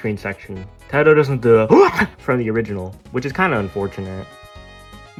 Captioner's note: gasp